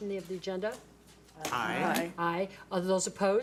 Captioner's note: board Members In Unison